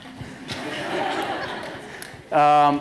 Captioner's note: laughter